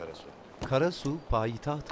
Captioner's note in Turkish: Damga vurma sesi